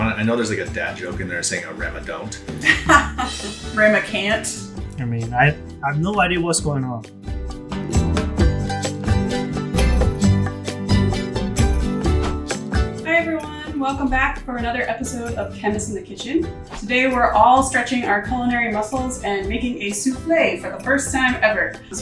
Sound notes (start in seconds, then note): 2.6 laughs; 7.2 casual upbeat music